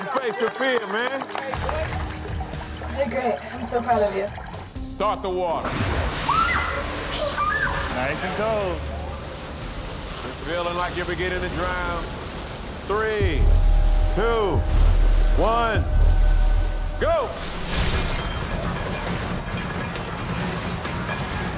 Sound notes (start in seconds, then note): 0.0 clapping; 6.2 screams